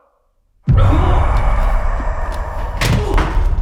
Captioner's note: Jacob coughs; ominous boom; Jacob groans; Jacob groaning; body thuds